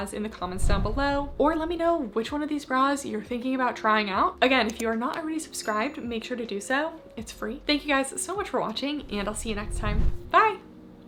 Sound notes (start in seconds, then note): 5.6 bell ringing